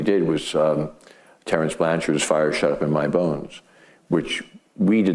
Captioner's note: none